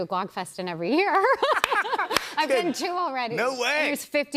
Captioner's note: laughter